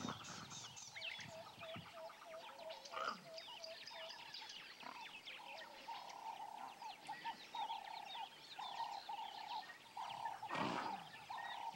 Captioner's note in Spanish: sonidos selváticos